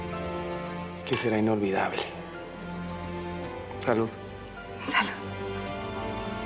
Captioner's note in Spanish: chocan las copas